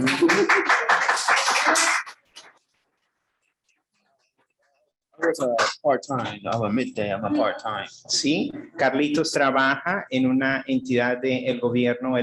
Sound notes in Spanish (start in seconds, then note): 0.0 aplausos; 6.3 hablando inglés